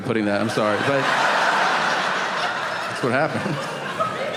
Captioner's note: audience laughing